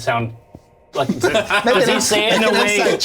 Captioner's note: all laugh